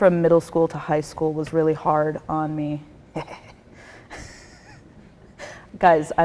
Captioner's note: chuckles